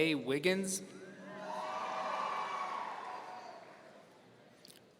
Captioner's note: audience cheering